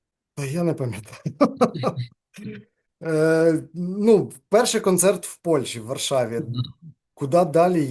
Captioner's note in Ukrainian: сміється